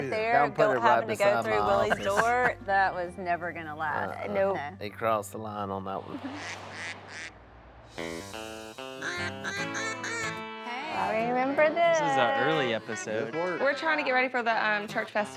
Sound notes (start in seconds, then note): 6.0 ducks quacking; 8.0 upbeat music; 8.9 duck calls quacking